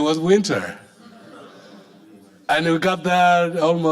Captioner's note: audience laughing